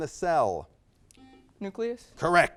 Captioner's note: buzzer beeps